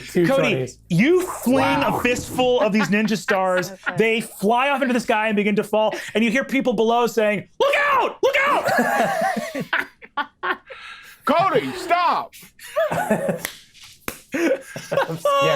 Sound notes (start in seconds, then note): 8.4 group laughing